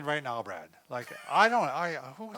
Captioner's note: laughs